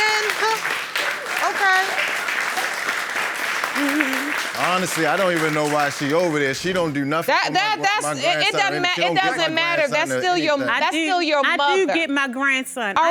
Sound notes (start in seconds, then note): 0.0 audience applauding; 6.8 judge lake stammering